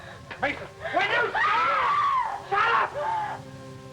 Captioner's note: screams